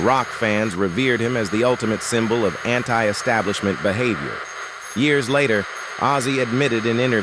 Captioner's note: SFX: radio static